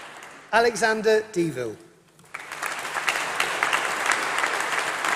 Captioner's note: applause